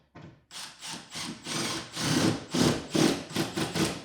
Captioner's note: drill whirring